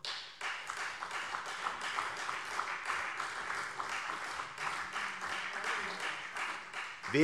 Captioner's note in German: Beifall CDU und vereinzelt BÜNDNIS 90/DIE GRÜNEN